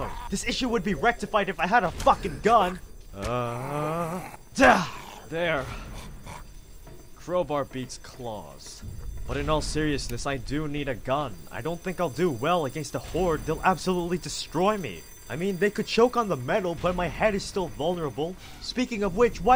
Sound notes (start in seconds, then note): 3.2 grunt